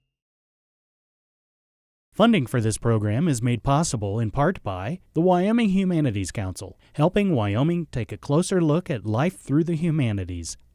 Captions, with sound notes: - [Voiceover] Funding for this program is made possible in part by the Wyoming Humanities Council, helping Wyoming take a closer look at life through the humanities.